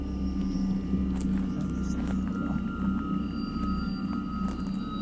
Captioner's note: eerie sounds